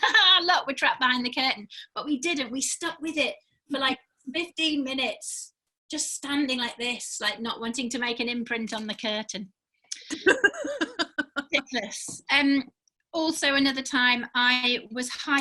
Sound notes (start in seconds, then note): 10.0 laughing